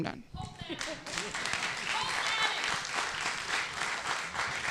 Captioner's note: applause